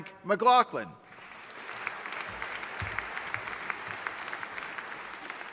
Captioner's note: audience applauding